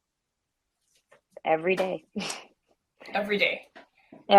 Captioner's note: laughs